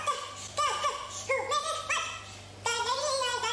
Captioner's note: humming